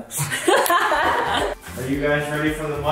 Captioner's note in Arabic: يضحك